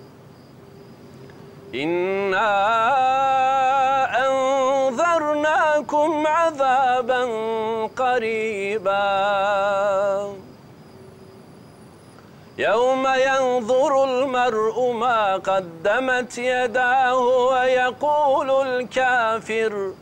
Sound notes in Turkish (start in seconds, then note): 1.6 Arapça kuran okunuyor; 12.5 Arapça kuran okunuyor